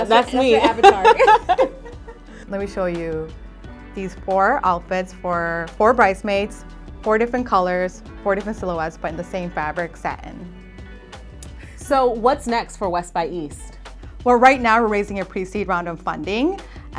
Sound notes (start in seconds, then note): 1.9 laughs